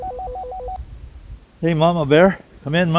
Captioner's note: wind